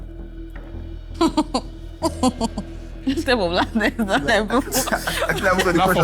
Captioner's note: laughs